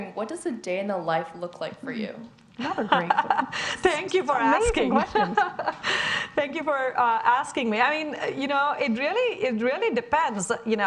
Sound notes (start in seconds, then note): 3.0 speaking faintly; 4.7 laughing